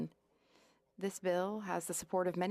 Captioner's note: speaking French